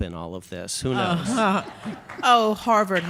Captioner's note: audience chuckles